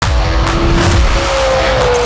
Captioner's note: engine roaring